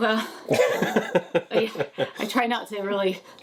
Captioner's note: laughing